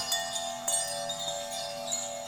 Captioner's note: etherial Twinkling sounds fade